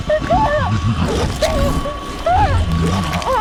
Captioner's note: shrieking